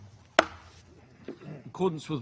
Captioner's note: gavel taps